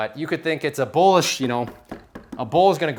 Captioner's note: knocking